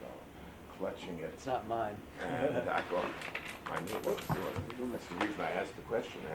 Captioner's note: laughs